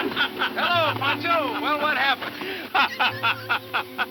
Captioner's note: Rancho laughing